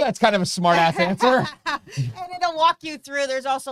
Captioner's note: laughing